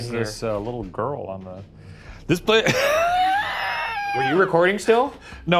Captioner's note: laughing